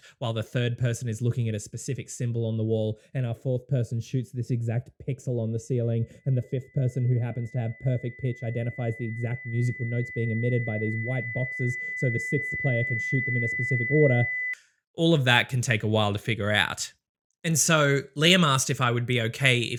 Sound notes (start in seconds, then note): 6.2 high-pitched ear-ringing